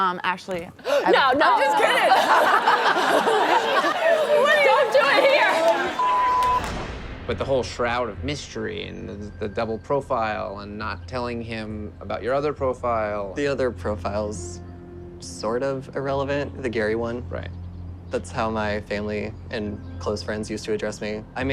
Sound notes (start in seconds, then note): 0.8 crowd laughs; 6.0 beep